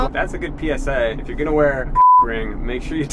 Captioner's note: beep